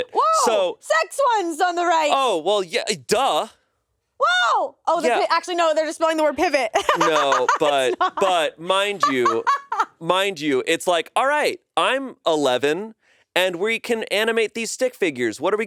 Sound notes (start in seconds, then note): 6.8 laughs